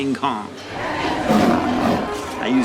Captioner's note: growling